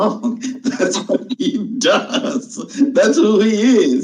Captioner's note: chuckles